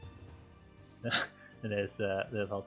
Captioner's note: laugh